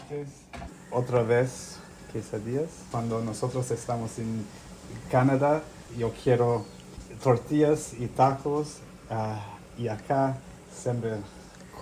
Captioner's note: speaking spanish